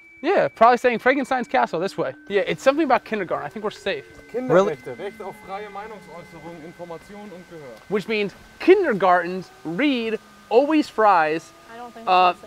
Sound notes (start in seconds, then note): 4.4 non-english speech